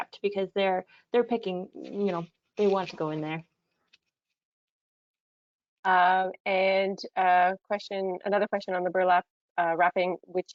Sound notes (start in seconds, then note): none